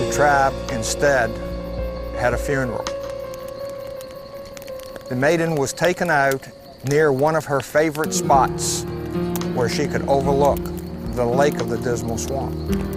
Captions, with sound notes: the tribe instead, had a funeral. (fire crackling) The maiden was taken out, near one of her favorite spots, where she could overlook the lake of the Dismal Swamp.